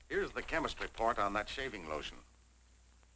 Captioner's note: none